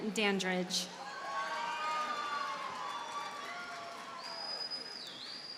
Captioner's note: audience cheers and applauds